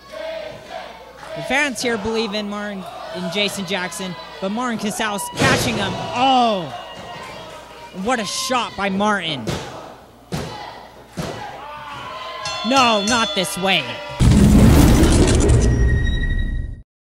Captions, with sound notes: The fans here believe in Martin and Jason Jaxon but Martin Casaus patching them. Oh, what a shot by Martin. (thuds on mat) (ring bell tolls) No, not this way.